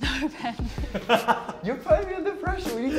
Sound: chuckles; laughter

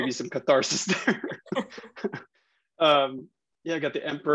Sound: laughing

